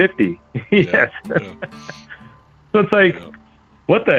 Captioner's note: laughs